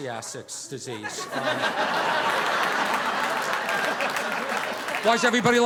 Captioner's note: audience laughing